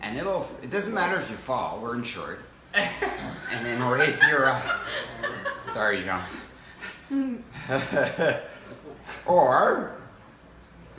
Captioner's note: laughs